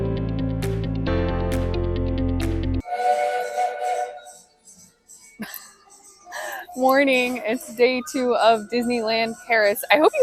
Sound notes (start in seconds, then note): 2.8 train whistle